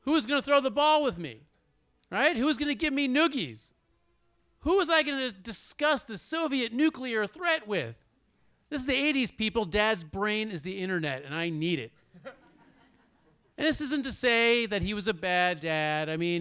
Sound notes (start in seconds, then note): 12.2 audience laughs